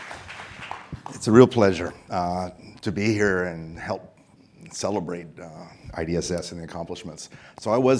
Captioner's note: applause